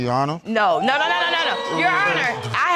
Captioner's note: audience gasps